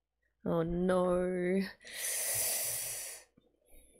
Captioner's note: sharp inhale